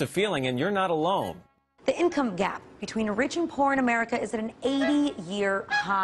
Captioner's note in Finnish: radio